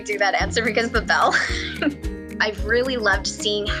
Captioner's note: chuckles